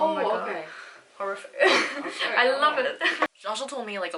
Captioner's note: scoffs